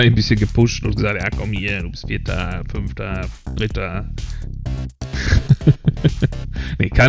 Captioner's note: laughs